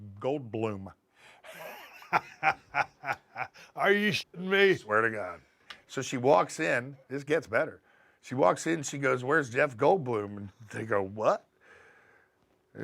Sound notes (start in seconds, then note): 1.4 laugh